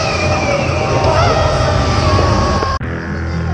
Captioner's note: more screeching